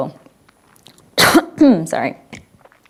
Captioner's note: coughs